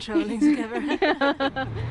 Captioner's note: laughs